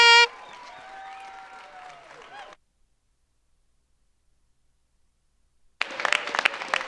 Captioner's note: audience cheers; audience applauds